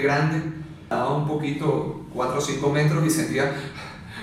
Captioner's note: heavy breathing